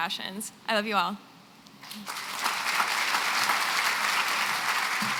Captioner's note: applause